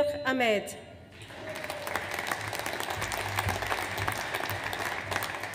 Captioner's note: audience applauds